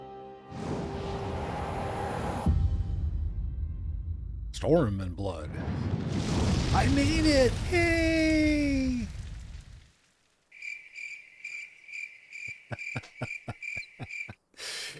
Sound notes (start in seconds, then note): 10.5 crickets; 12.4 laughs